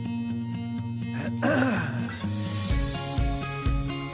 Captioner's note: man clears his throat